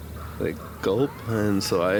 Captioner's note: laughs